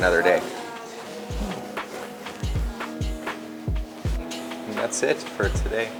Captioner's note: people chattering; upbeat music